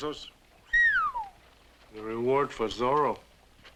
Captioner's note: whistles